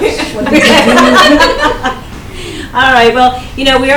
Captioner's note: everyone laughs